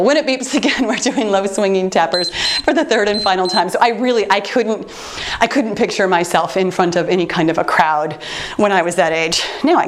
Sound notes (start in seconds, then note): 2.1 timer beeps